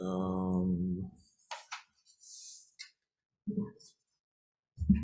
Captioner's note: silence